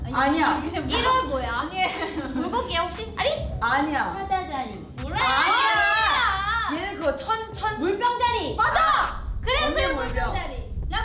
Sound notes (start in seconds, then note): 0.1 speaks in Korean